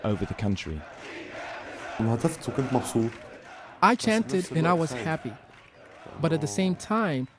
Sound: through translator

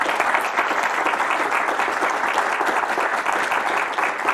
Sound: audience applauding

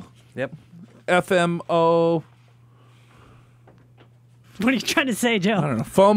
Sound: laughs

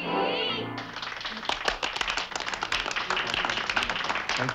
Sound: applause

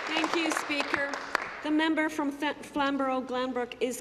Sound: applause

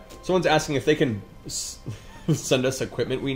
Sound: laughs

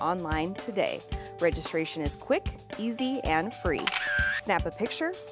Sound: camera clicks

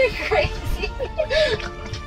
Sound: laughing

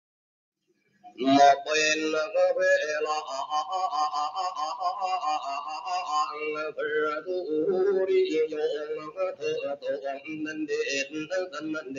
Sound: plays recorded recitation in Thai

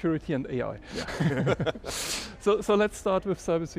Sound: group laughing

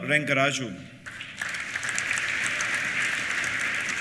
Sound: applause

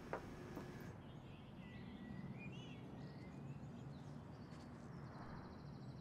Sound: motorway ambience; birdsong

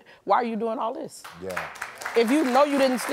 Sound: audience applauding

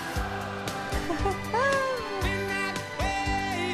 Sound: laughs

